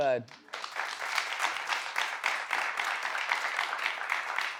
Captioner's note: audience claps